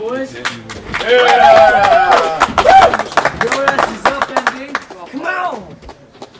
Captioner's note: applause